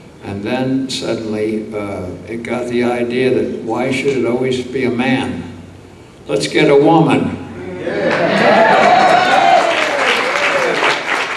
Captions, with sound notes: and then suddenly it got the idea that why should it always be a man? Let's get a woman. (audience cheers)